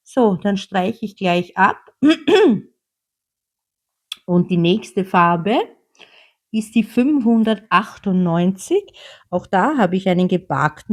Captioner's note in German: räuspern